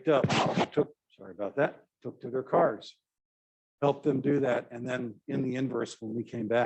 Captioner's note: electronic scratching noise